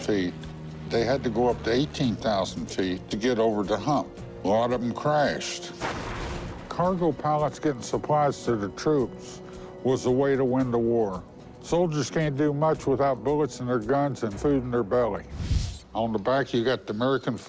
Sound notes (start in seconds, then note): none